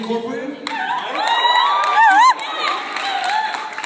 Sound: cheering

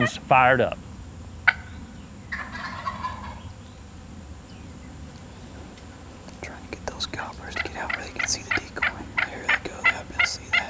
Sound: whispering

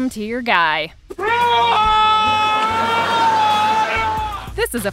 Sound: screaming

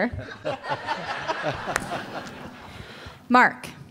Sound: laughs

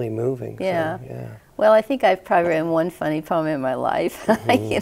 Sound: chuckles

